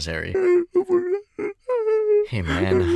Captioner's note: crying